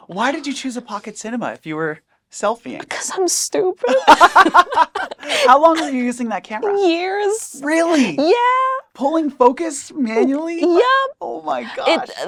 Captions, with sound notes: - Why did you choose a Pocket Cinema if you were selfieing? - Because I'm stupid. (both laugh) - How long were you using that camera? - Years. - Really? - Yeah. Pulling focus manually? - Yep! - Oh my gosh!